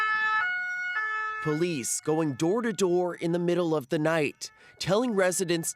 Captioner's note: sirens